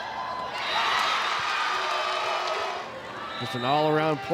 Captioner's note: audience cheering